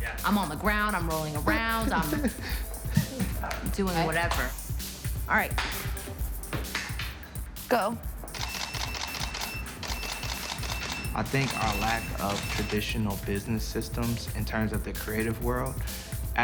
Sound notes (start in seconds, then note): 8.3 camera clicking